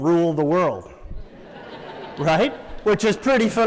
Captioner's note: laughter